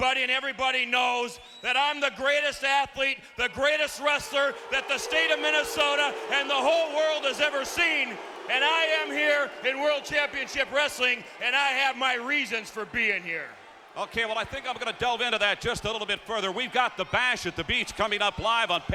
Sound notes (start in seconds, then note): 5.7 audience booing